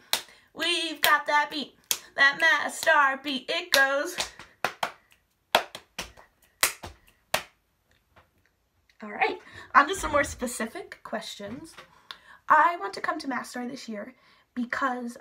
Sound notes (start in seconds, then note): 0.0 clapping and snapping, to a rhythm; 3.6 rhythmic clapping, and stomping